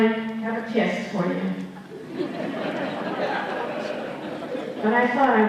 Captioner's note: laughter